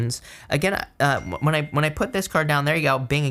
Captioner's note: notification dings